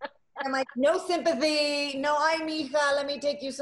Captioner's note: laughing; speaking in Spanish